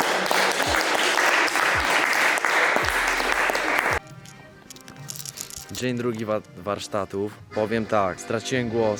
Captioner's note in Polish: Aplauz